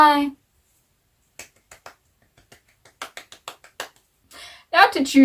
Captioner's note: applause